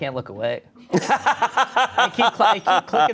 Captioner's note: laughs